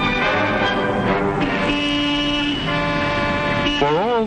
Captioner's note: honking